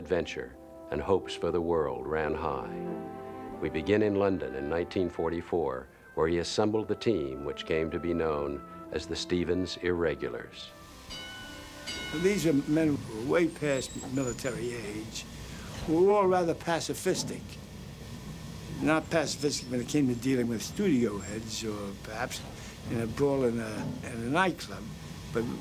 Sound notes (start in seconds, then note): 11.0 bell dings